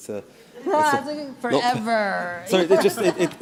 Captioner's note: laughter